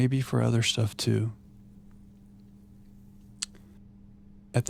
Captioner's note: silence